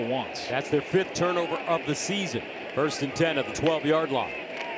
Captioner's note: cheers and applause